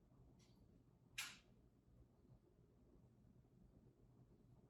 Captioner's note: gun clicks